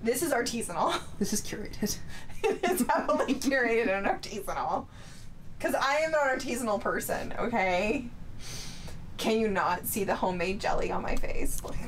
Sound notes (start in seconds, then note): 2.3 laughing